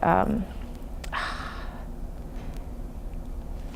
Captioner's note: sighing